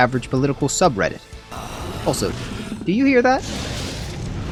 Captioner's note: groaning of increasing discomfort